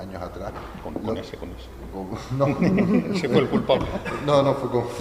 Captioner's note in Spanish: risas